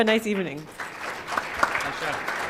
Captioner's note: applause